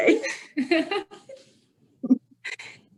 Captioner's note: laughing